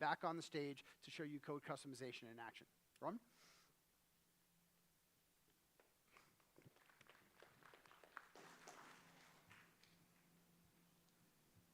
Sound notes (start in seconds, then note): 6.0 applause